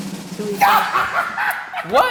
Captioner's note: laughing